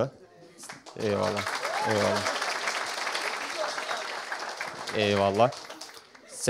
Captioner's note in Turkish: alkiş